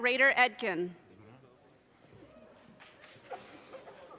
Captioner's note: audience cheers and applause